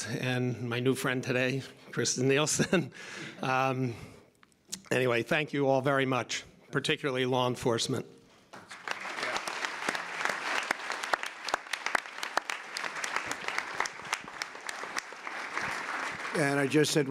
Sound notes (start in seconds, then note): 2.5 laughter; 8.5 applause